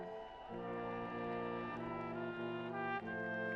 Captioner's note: people cheering